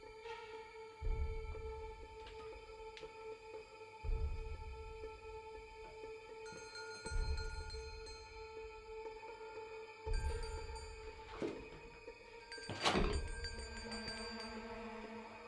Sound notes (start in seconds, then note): 6.4 distant bell; 10.1 distant bell